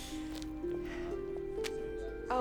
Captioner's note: thwap